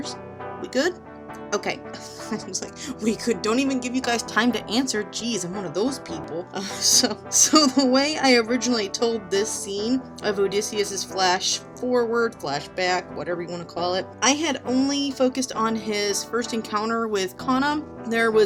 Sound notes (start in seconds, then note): 2.4 laughs; 7.0 laughs at self